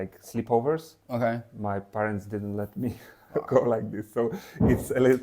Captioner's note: laughs